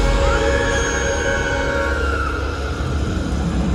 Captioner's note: screams